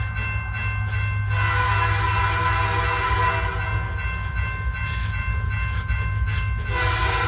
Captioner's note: train whistle blaring; bell dinging